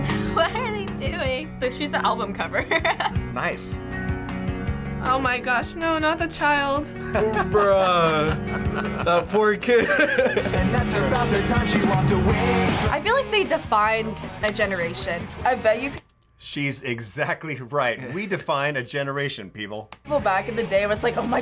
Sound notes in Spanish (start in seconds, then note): 2.6 risas; 7.0 risas